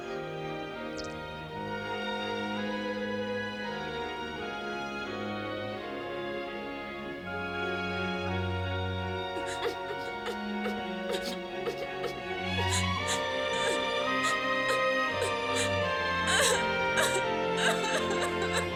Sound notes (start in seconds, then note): 9.0 sobbing